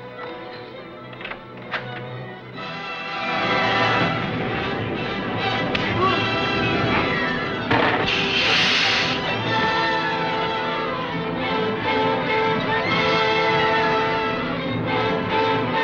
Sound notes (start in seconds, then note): 0.2 action music; 3.5 blow landing; 3.5 groaning; 7.6 gun firing; 8.0 hissing